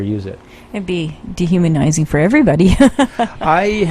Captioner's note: laughter